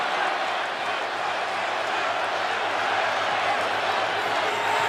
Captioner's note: crowd cheering